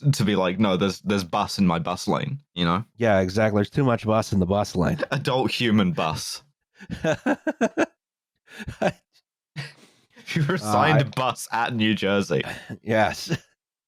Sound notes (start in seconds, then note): 6.8 laughs